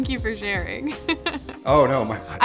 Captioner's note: laughs